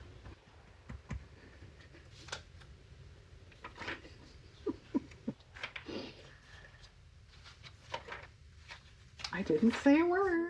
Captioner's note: laughs